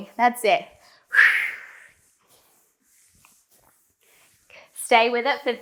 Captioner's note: breathing sharply